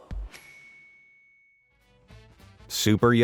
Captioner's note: bell dings